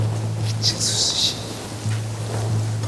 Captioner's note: whispering